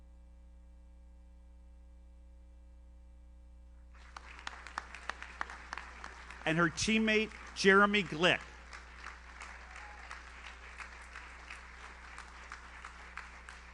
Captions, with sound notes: (audience applauds) And her teammate Jeremy Glick. (audience member cheers) (audience applauds)